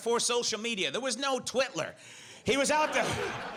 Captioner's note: audience laughs